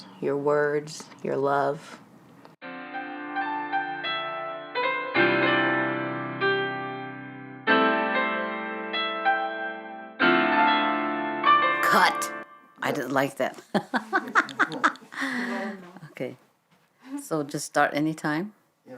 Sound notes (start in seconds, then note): 2.7 gentle piano music; 13.7 laughs; 14.6 crew murmuring